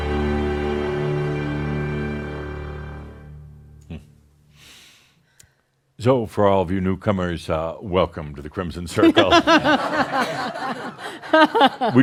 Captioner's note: laughter